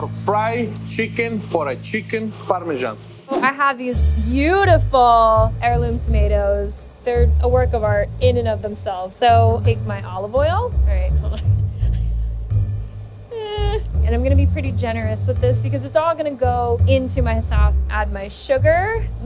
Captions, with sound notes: our fried chicken for a chicken parmesan. - So, I have these beautiful [air whooshing] heirloom tomatoes. [upbeat music] They're a work of art in and of themselves. So take my olive oil, all right hold on, [laughing] and I'm gonna be pretty generous with this because it's all gonna go into my sauce. Add my sugar.